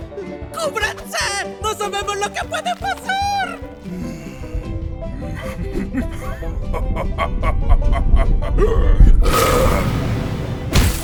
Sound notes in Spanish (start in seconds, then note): 3.6 Bugsy tiembla y se ríe; 8.5 eructa